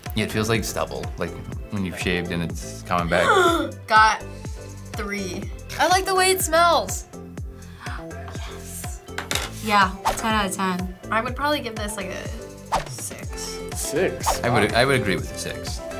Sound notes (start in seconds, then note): 4.4 gasps; 8.0 whispers